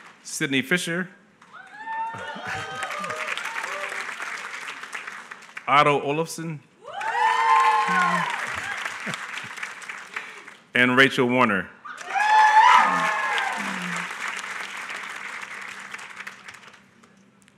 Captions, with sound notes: Sydney Fisher, Otto Olafsson, And Rachel Warner. [APPLAUSE]